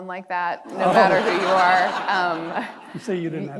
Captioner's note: audience laughing